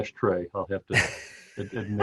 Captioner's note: laughter